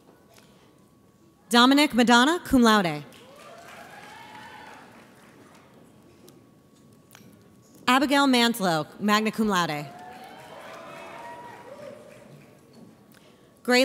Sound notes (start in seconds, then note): 3.1 audience applauds; 9.8 audience applauds